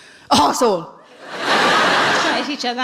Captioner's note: laughing